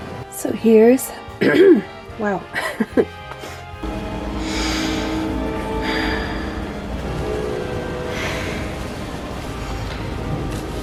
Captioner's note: clears throat